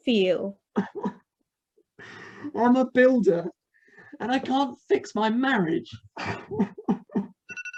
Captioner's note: sobbing; timer rings